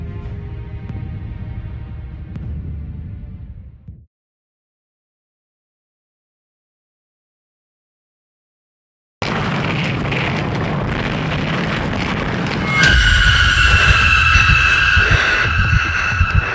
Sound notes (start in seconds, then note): 9.2 explosion; 12.5 screaming